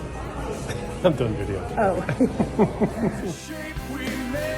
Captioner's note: laughs